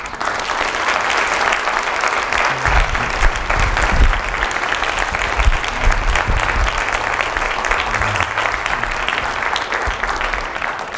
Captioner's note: applause